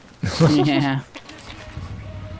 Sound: laughs

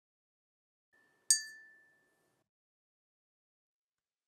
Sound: clinking teaspoon

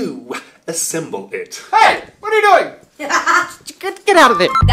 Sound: laughing; beep

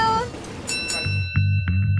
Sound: bell chimes; suspenseful music

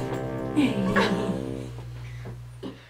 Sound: laughs; giggles

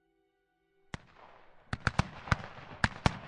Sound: guns firing; gentle music

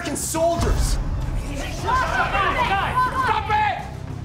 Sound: yelling

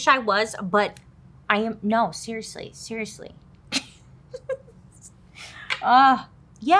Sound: chuckles

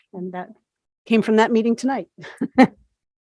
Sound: chuckles

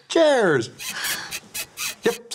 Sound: squeaking

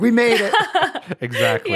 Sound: laughing

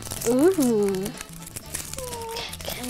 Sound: candy wrapper crinkling

